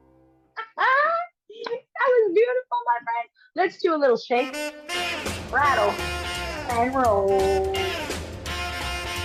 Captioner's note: laughs